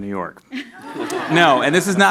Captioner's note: audience laughs